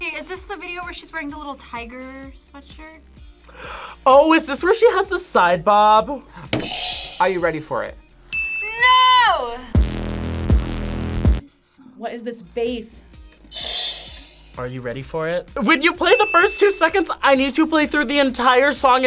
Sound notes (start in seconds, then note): 6.5 buzzer rings; 8.3 bell rings; 9.7 thumping electronic music; 16.0 buzzer rings